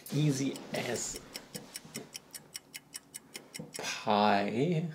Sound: ticking

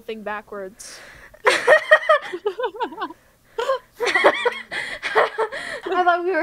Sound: laughter

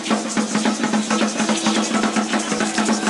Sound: none

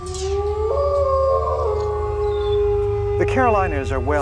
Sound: wolf howling

